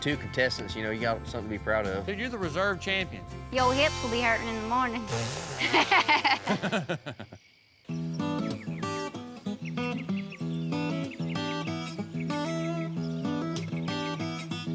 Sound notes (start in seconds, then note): 5.3 everyone laughs; 7.0 birds chirping